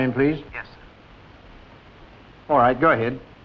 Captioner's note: on phone